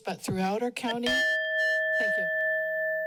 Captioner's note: bell dings